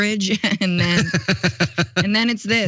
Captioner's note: laugh